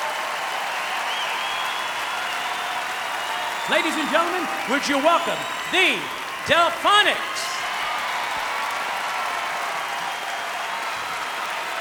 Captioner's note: applause; cheering